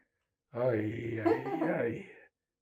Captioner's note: laughing